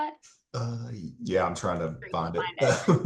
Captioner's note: laughs